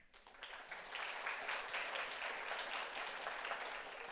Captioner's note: audience applauds